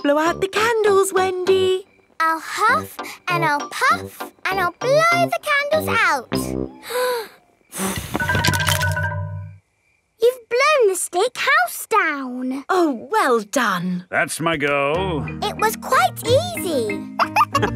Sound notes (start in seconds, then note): 7.7 blowing